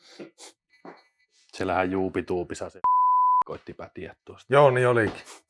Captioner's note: peep